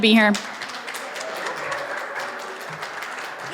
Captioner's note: applause